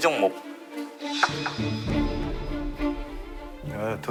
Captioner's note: careful knock-knock